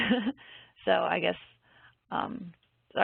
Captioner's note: giggles